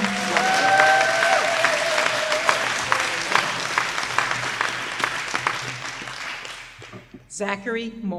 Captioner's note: applause